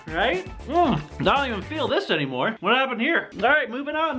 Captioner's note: gulps down more